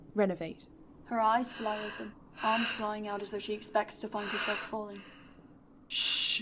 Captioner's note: mouth gasping